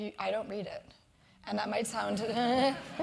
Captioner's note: laugh